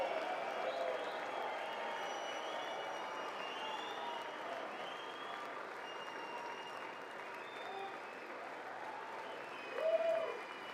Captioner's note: applause